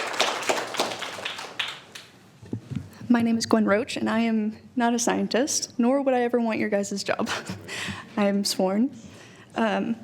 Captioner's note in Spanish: aplausos